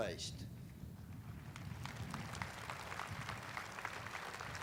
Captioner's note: audience applauding